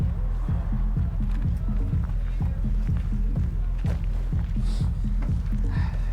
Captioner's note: footsteps